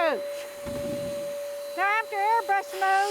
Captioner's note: wood stacking sound